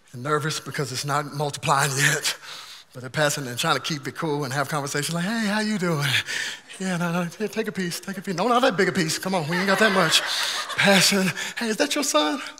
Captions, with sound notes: and nervous because it's not multiplying yet, but they're passing and trying to keep it cool and have conversations like, "Hey, how you doing? "Yeah, take a piece, no, not that big a piece. "Come on, we ain't got that much." (congregation laughing) Passing, "Hey, is that your son?